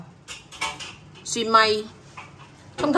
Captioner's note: Cantonese